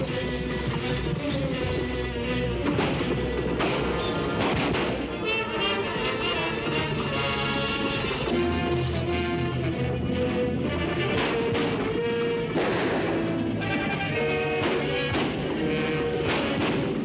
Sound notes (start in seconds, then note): 0.1 dramatic music; 3.4 guns firing